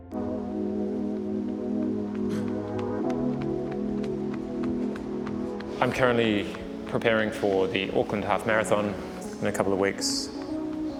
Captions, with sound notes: (ATMOSPHERIC TECHNO MUSIC) (PANTING) I'm currently preparing for the Auckland Half Marathon in a couple of weeks.